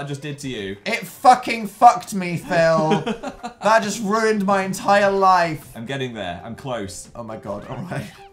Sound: laughs

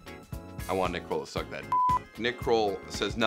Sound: beep

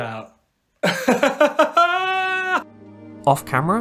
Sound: laughter

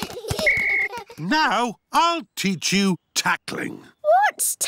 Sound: blows whistle

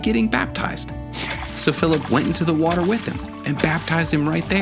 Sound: water splashing

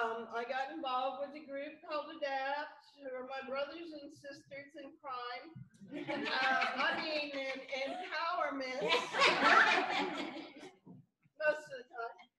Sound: laughter

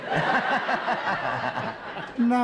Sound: laughter

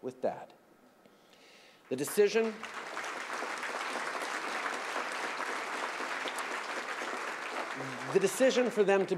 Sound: applause

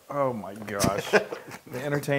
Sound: laugh

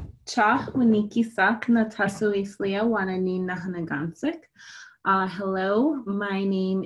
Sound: non-english speech

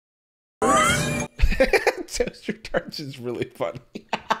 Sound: laughs

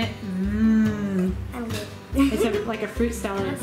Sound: giggling

